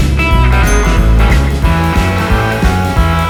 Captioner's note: floor sanding